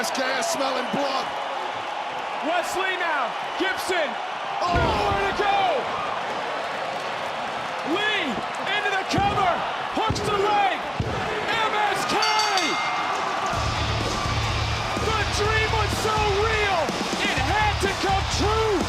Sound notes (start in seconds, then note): 3.0 audience cheering; 12.0 bell rings; 12.4 audience cheering; 14.5 music plays